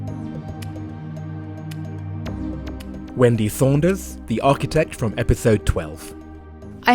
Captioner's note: voiceover